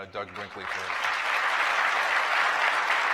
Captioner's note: applause